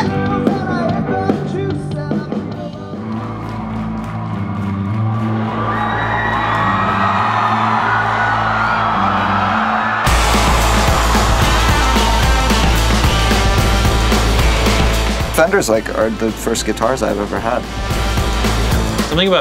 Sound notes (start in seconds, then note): 4.7 crowd cheering; 10.2 lively rock music